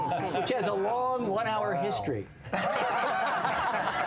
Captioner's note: laughter